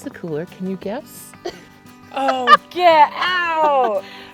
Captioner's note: laughs